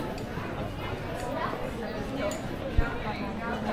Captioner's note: people chattering